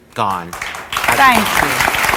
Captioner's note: audience applause